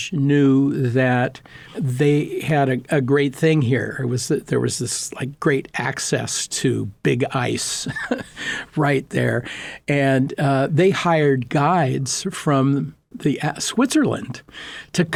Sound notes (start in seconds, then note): 7.8 laughing